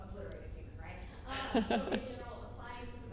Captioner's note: laughing